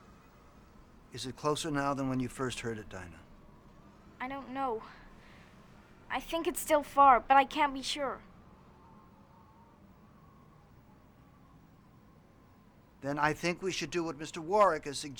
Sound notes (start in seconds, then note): none